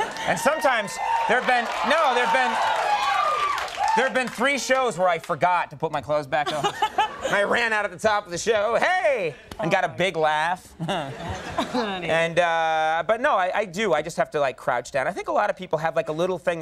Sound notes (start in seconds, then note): 2.7 audience applauding; 10.7 audience laughing